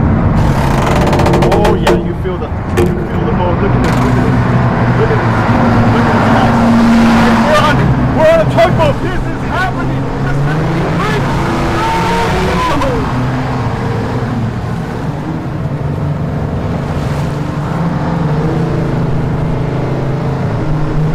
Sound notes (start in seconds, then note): 0.3 boat creaks; 6.7 boat drowns out speaker; 10.6 boat drowns out speaker; 18.6 boat roars